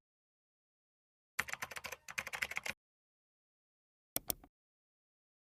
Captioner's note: keyboard keys clacking